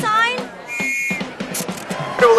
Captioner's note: whistle